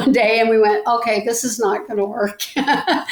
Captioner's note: laughs